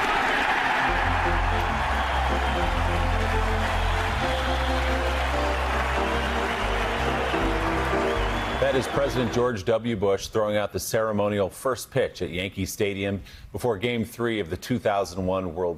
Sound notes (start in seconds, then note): 0.0 cheers and applause; 5.1 cheers and applause